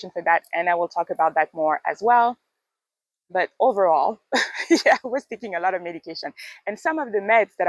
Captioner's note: laughs